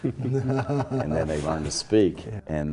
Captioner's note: laugh